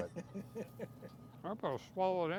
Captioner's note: laughing